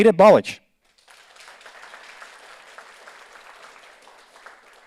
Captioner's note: audience applauds